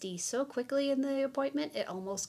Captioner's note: none